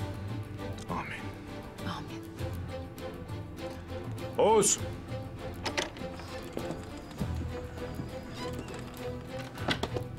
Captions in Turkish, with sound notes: Âmin. Âmin. Oğuz. (Kapı açılma sesleri) (Kapı gıcırdama sesleri) (Kapı gıcırdama sesleri) (Kapı kapanma sesleri)